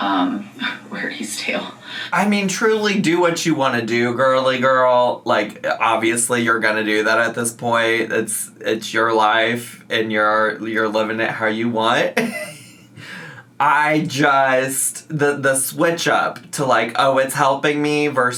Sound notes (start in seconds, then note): 12.2 laughs